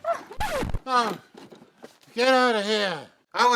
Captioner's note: Arizona chuckles; record scratches